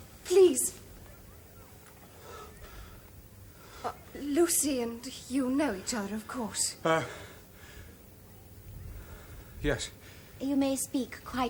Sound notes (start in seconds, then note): none